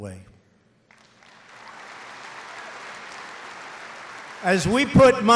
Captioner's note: applause